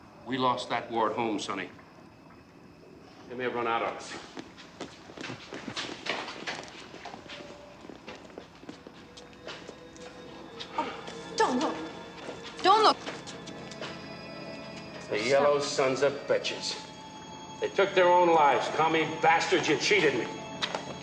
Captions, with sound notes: We lost that war at home, sonny. They may have run out on us. (Gasps) Don't look. Don't look. The yellow sons-of-bitches. They took their own lives. Commie bastards! You cheated me.